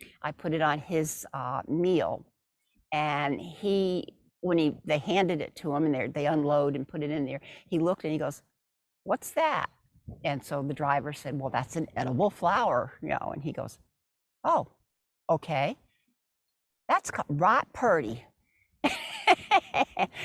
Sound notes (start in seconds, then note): 18.9 laughs